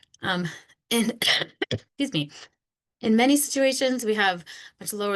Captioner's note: coughs